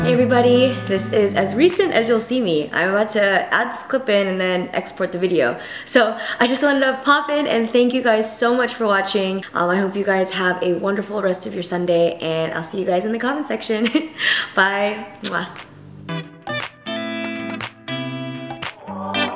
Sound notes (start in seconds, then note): 15.3 kisses; 15.9 calm music